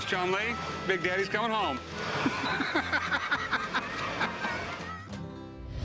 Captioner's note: laughs